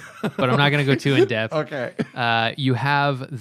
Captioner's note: laughter